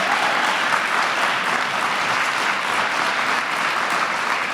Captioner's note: applause